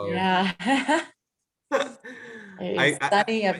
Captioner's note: laughs